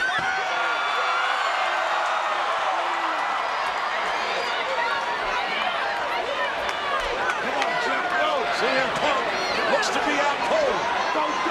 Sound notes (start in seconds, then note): 0.3 crowd cheers; 5.2 crowd shouts encouragement